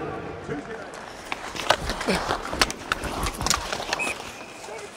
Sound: hockey sticks clashing; whistle sounds

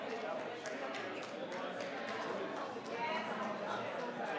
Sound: crowd chattering

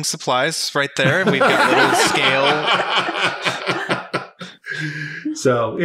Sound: laughing

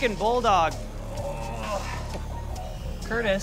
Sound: groaning

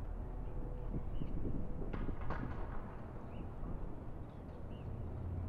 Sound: flag pole rattles

